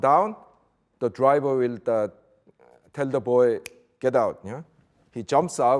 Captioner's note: snaps fingers